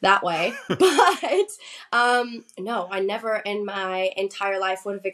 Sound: laughs

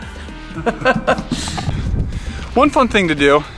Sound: laughs

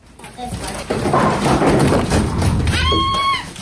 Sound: really loud bangs

